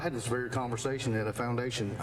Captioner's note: none